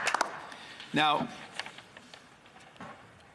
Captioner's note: some applause